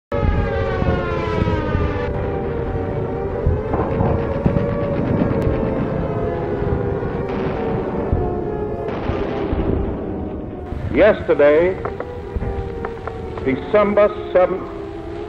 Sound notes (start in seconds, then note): 0.0 air raid siren in the background; 0.0 bombs dropping; 2.6 bombs exploding; 3.7 machine gun fire; 7.0 naval guns firing